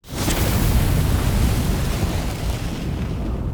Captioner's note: flames roaring